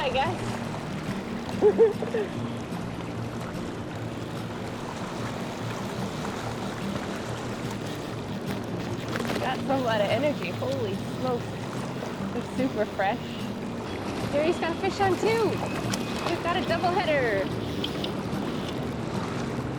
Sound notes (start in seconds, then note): 0.0 fly rod casts; 4.8 river flowing; 10.7 fly rod casts